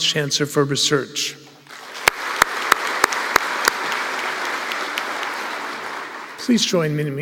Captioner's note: applause